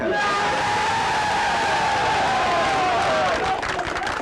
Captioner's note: people cheering; people clapping